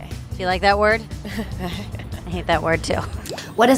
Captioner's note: laughs uneasily